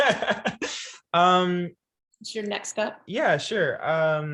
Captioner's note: laughs